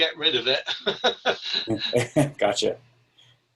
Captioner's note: laughing